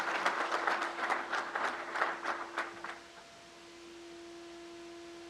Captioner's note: crowd applauds